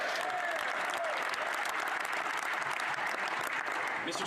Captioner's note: speaking French